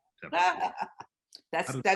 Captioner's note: laughing